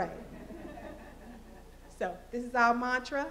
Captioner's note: laughter